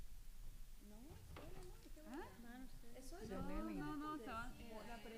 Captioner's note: speaking spanish